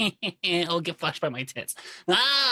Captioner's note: laughs